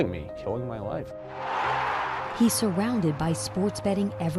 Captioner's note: crowd roaring